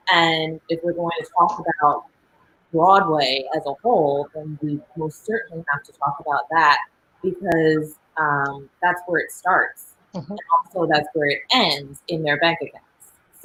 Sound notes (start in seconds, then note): none